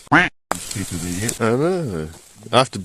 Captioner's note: quack